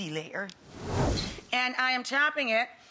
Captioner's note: whooshing